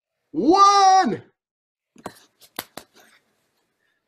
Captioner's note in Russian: хлопает